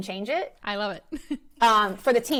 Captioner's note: laughs